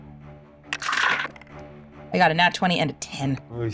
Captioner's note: dice rolling